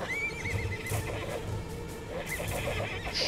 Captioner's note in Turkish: At kişneme sesi